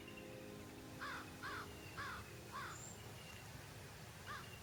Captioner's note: birds and nature sounds